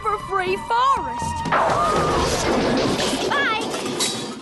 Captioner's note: crash!